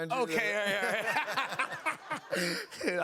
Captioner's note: laughter